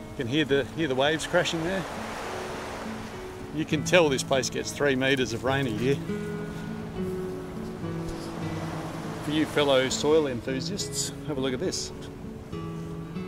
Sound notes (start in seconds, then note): 2.0 waves crash